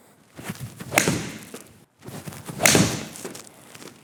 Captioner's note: club thwacks against ball